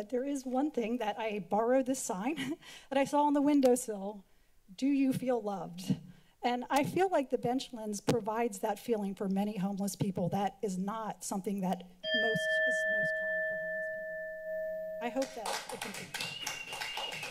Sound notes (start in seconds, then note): 2.4 chuckles; 12.0 alarm sound; 15.1 applause